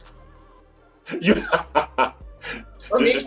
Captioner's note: laughing